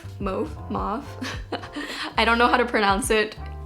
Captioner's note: chuckles